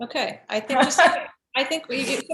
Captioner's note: laughs